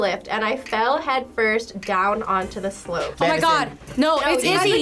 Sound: none

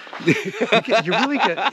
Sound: Ron laughing

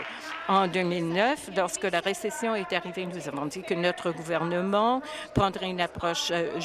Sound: applause

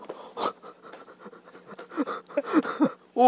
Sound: sobbing

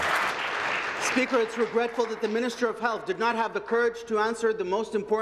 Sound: some Applause

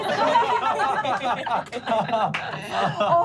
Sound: laughing

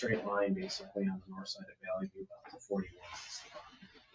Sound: speaks distantly

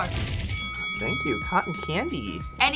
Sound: bell dings

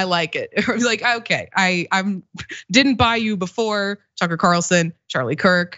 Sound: laugh

